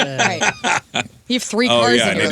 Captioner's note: laughter